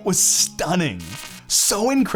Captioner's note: electric buzzing